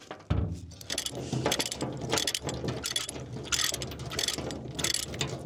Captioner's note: metal clinking